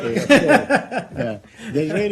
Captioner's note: laughter